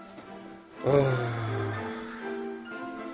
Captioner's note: nikos sighs